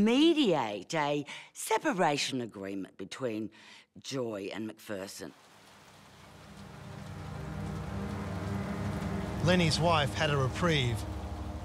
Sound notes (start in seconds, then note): 5.2 rain patters; 7.7 sinister music builds